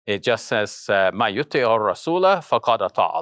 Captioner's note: speaking in foreign language